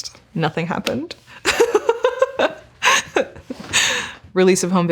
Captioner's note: laughing